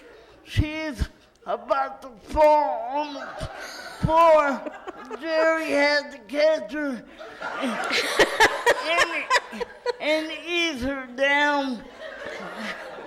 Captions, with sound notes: she's about to fall on the floor. Gerry had to catch her... (laughter in audience) and ease her down.